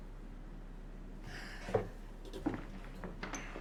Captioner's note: sighs tiredly